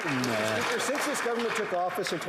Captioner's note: some Applause